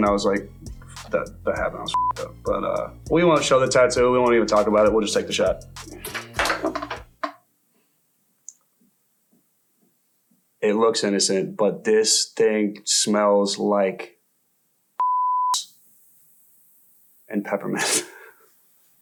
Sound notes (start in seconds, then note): 1.9 beep; 15.0 beep